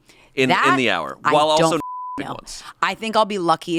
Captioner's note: beep